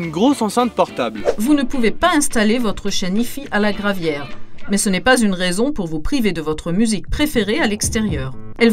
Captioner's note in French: Voix de femme